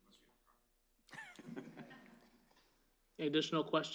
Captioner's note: laughter